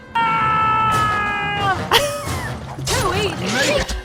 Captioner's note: still screaming